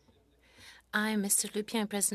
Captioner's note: speaking French